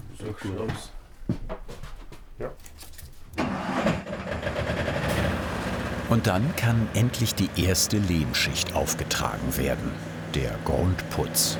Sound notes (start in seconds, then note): 3.5 machine noise